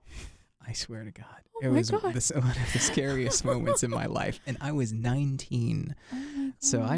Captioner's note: both laugh